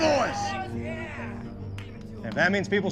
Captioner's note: men cheering